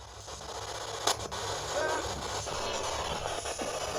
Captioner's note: static